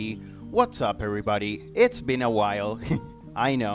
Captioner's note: chuckles